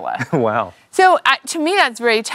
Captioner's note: laughing